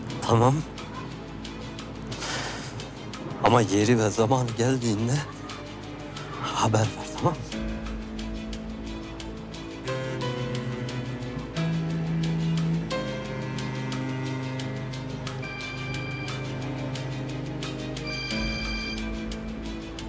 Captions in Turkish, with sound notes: Tamam. Ama yeri ve zamanı geldiğinde... ...haber ver. Tamam mı? (Telefon çalıyor)